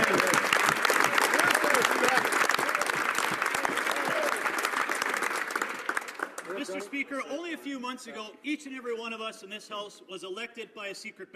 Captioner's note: some Applause